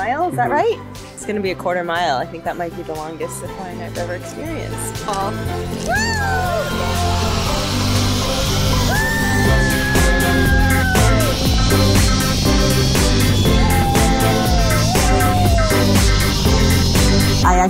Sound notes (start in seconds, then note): 9.3 screaming; 14.2 upbeat music